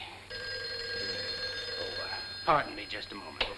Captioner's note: phone rings